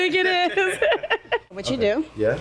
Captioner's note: laughing